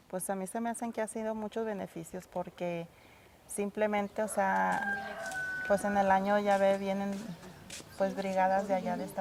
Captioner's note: foreign language spoken